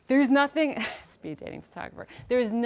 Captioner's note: chuckling